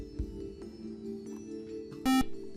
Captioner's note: buzzer